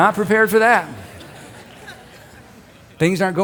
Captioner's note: crowd laughing